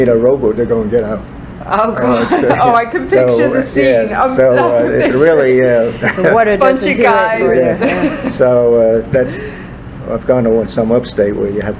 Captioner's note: all laugh